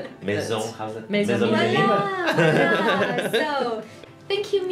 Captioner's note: rires